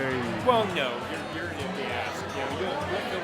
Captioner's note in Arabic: مغموس بالثرثرة الجماعية